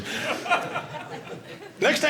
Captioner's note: audience laughing